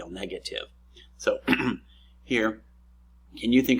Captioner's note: clears throat